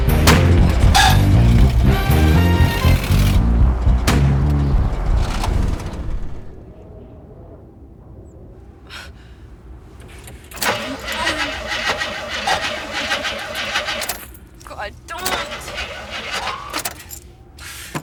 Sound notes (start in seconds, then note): 0.0 car rattling; 4.2 car sputtering; 8.8 sighs; 10.6 engine revving weakly; 10.6 groans; 15.3 engine revving weakly; 17.8 sighs